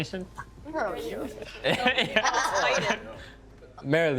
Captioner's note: chattering